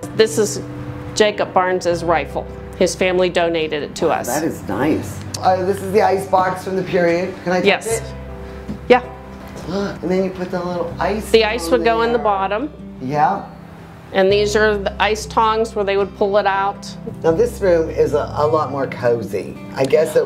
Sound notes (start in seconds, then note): 9.7 gasps